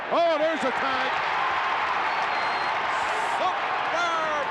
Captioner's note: crowd cheering